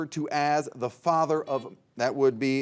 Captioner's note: buzzer beeps